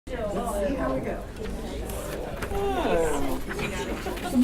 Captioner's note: audience chatter